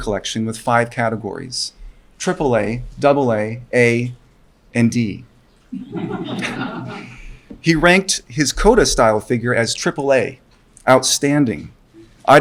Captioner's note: laughter from audience